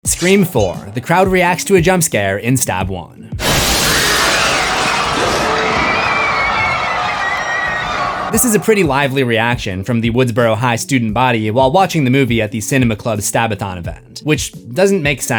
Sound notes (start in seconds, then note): 3.4 screams